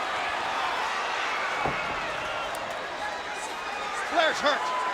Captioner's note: spectators cheering